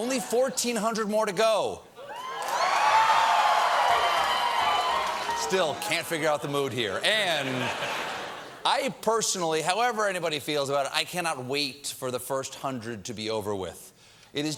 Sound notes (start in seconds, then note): 0.2 laughter; 2.0 cheers and applause